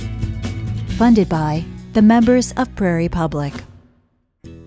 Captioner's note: voiceover